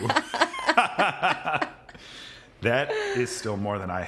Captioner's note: both laughing